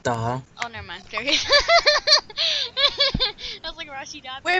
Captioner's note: laughter